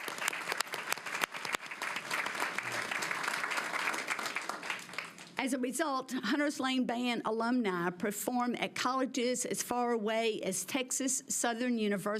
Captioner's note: applause